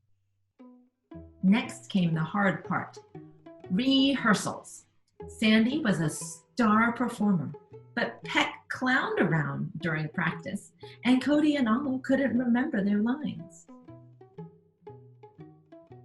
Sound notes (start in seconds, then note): none